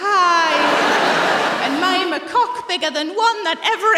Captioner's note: laughter